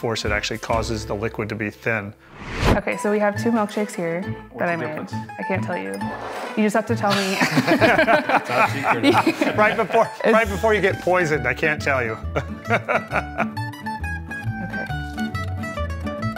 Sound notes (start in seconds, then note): 7.1 all laughing; 13.8 bright music